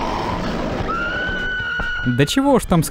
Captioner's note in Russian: крик